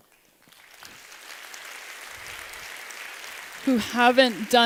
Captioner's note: applause